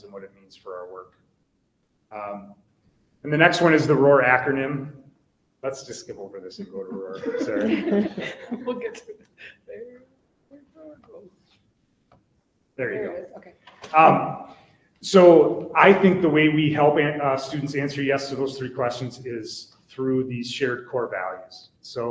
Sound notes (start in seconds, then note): 6.5 people laugh